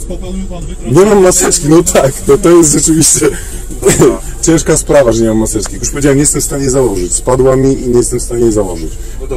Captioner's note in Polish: śmiech